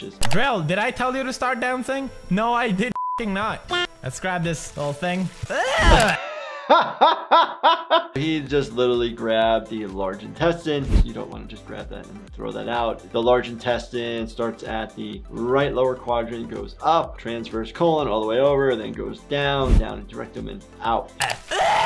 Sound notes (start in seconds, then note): 2.9 beep; 5.5 screeches; 5.5 laughter; 21.2 screams